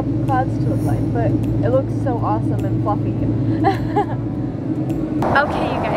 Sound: laughs

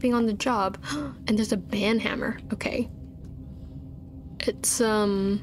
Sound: gasp

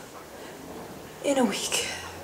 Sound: sighs

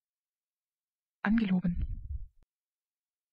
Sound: fast Pronunciation

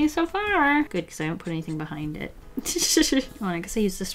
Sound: laughs

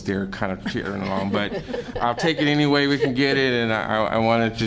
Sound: laughter

